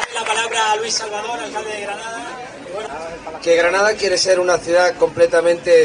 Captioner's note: applause